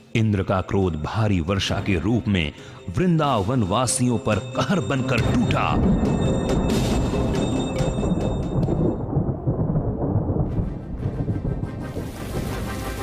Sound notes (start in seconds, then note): 5.7 clouds rumbling